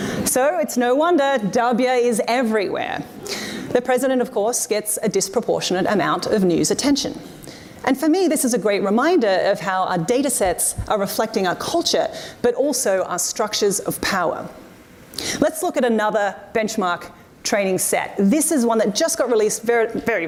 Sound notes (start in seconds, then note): none